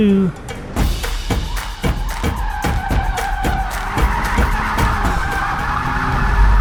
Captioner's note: upbeat music continues; vehicle revs